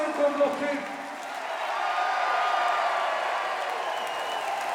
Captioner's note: cheering